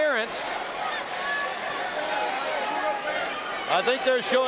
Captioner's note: audience cheering